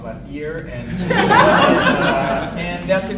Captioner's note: audience laughing